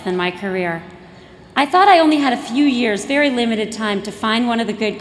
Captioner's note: none